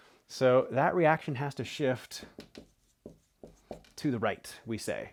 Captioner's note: marker scratching